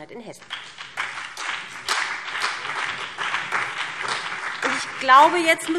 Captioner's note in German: Beifall BÜNDNIS 90/DIE GRÜNEN und CDU